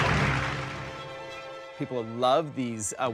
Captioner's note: audience applauding